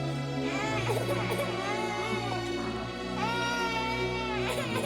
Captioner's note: baby crying